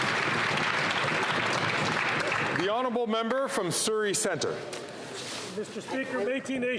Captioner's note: some Applause